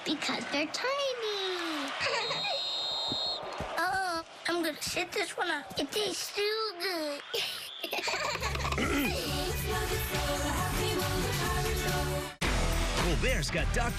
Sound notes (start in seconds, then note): 2.0 giggles; 2.1 whistle blows; 7.3 giggles; 8.7 coach clears throat